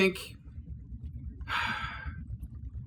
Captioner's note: sigh